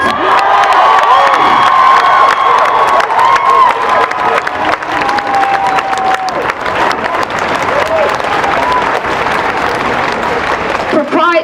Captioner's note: cheering and applause